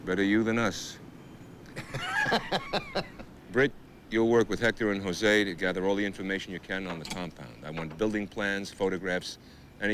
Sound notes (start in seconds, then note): 1.7 group laughs